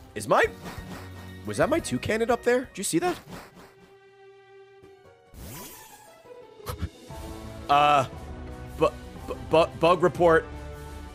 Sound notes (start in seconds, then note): 6.4 laughs